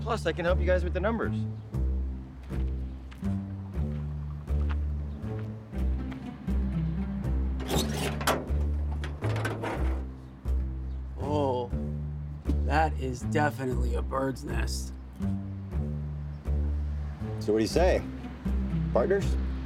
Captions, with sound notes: Plus I can help you guys with the numbers. (upbeat music) (food truck lid opening) - Oh, that is definitely a bird's nest. - So what do you say? Partners?